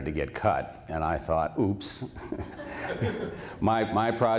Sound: laughter

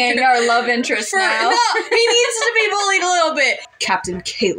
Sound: laugh; laughing

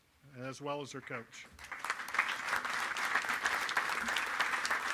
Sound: applause

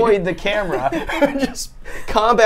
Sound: laughs

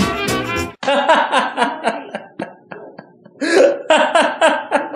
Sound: laughing

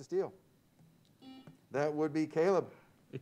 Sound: buzzer sounds

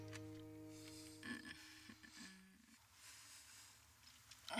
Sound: moaning

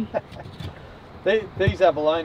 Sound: laughs

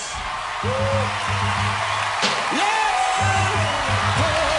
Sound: crowd cheering

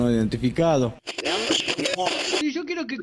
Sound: radio tuning

